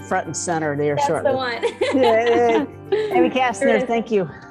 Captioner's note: laughs